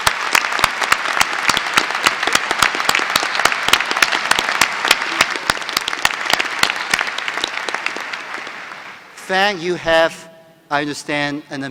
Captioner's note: applause